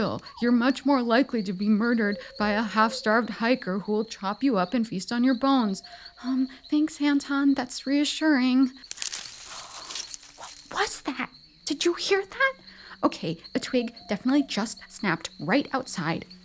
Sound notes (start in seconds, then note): 8.8 more rustling